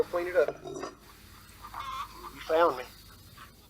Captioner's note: chickens clucking